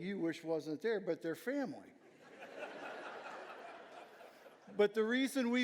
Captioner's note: audience laughing